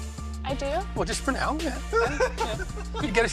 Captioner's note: laughter